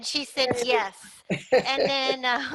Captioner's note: laugh